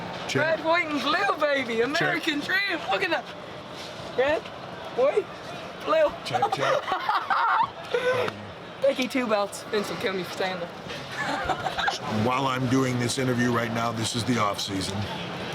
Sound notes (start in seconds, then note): 6.3 laugh; 11.1 laugh